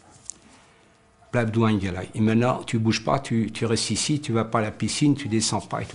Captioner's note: foreign language